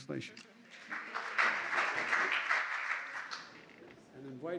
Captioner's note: applause